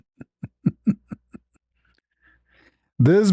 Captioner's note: ketawa